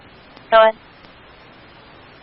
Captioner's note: radio traffic